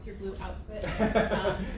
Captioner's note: laughter